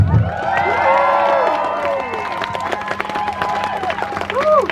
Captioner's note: crowd Cheers